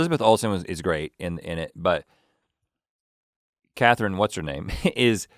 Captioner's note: chuckles